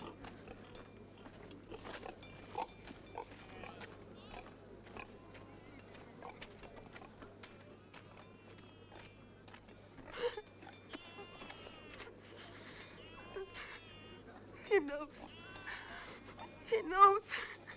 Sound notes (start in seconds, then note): 11.0 Tracima sobbing